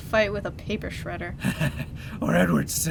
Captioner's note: Batman laughing